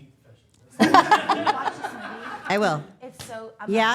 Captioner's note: all laughing